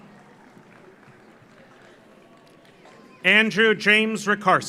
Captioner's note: audience applauds